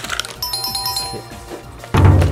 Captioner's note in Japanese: 正解の音; 小声